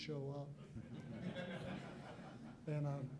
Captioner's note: laughter